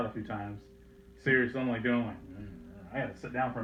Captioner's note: mimicks fainting sound